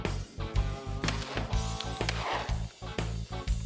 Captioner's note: gun shots